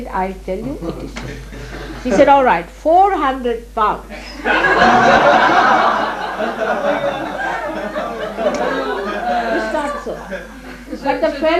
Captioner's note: laughter